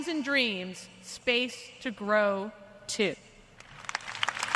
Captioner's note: applause